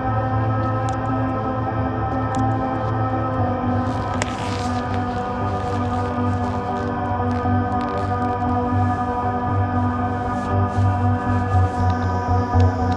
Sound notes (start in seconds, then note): 3.8 gloves squeaking